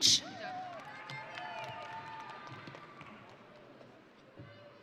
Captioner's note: audience cheering